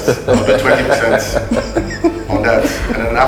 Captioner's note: judges laughing